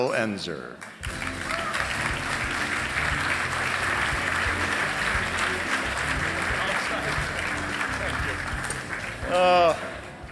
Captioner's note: applause